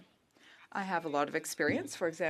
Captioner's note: speaking French